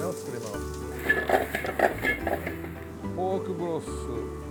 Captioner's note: pan clinking; speaking in Japanese